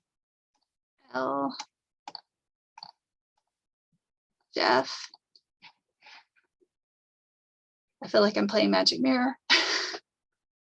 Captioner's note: laughter